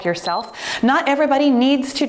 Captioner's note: timer beeps